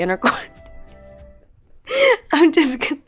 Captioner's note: laughing